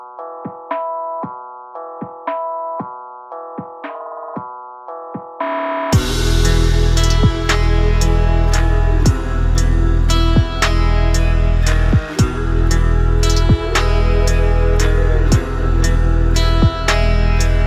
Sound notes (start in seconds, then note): 5.7 oooo; 13.1 oooo